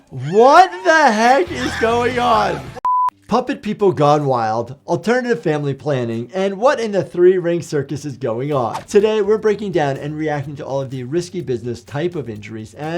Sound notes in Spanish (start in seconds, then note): 2.8 la pantalla emite un pitido